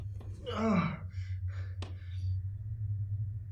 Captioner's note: Willem gasps in pain